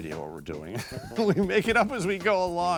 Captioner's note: laughing